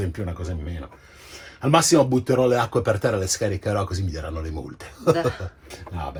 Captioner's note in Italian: risata e ironia